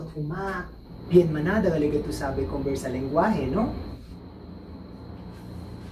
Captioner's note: chabacano